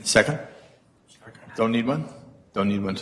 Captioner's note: male Voice